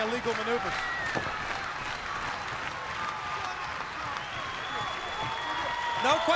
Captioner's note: crowd cheering